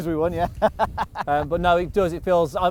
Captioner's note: laughs